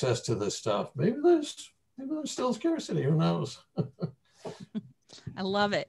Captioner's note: chuckles